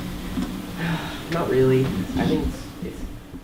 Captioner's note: voiceover